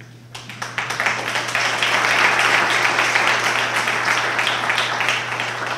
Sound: applause

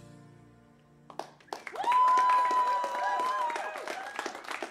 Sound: ending note fades; cheers and applause

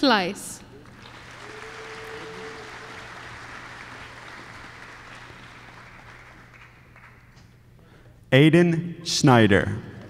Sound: applause

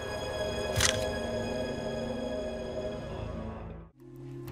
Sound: camera shutters

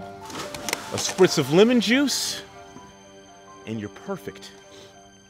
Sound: splashing

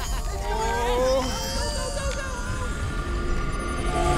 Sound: whiny grunts

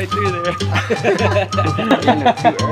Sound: laughs

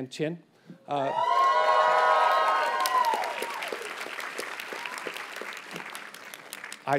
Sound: audience cheers and applauds

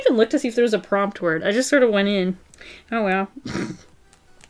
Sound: snorts

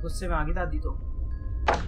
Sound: pillar falls

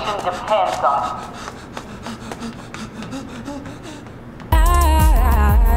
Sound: Paul panting as he runs away

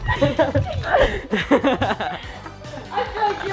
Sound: laughing

